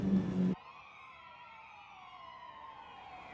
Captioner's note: sirens blaring